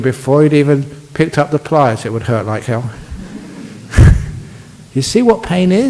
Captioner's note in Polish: Laugh